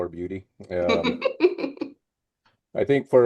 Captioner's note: laughs